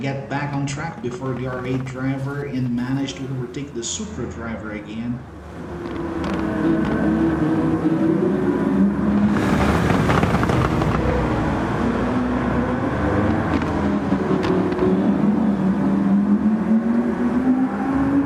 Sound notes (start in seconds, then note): 5.2 engines revving, cars noises, rain